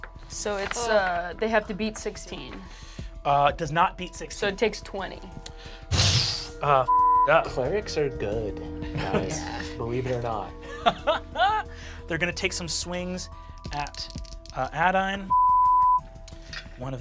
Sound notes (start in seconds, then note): 6.1 sighs; 6.8 beep; 10.5 laughs; 15.2 beep